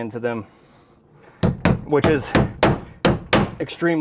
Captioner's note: hammering